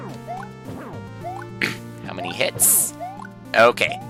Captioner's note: clears throat